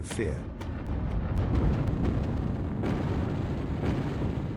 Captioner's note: explosions booming